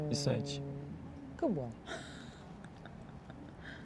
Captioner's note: haha